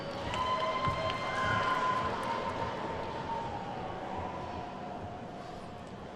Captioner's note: attendees whooping and clapping